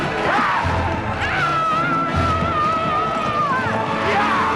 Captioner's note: villager wails